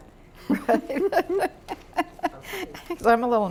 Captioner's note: laughter